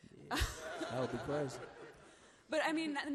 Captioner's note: laughs